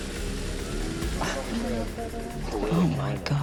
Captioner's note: group chatter